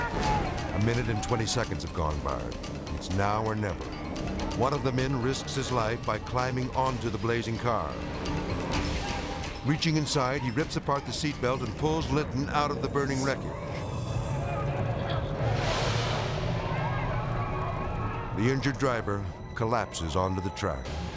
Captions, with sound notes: A minute and 20 seconds have gone by. It's now or never. One of the men risks his life by climbing onto the blazing car. Reaching inside, he rips apart the seatbelt and pulls Lynton out of the burning wreckage. (people shouting) The injured driver collapses onto the track.